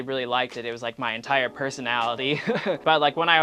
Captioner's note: laughs